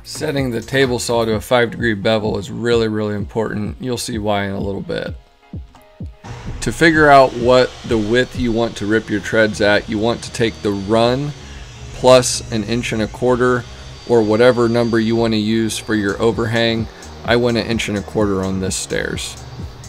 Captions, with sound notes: Setting the table saw to a five-degree bevel is really, really important. You'll see why in a little bit. (saw whirring) To figure out what the width you want to rip your treads at, you want to take the run, plus an inch and a quarter or whatever number you wanna use for your overhang. I went an inch and a quarter on the stairs.